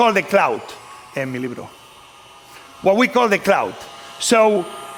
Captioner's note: spanish